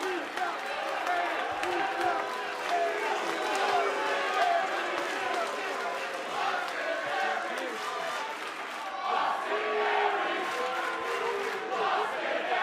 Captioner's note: fans chanting